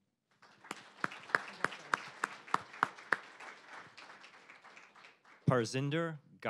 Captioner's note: applause